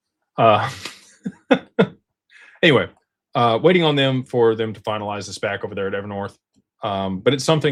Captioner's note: laughter